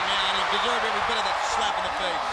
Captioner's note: crowd cheering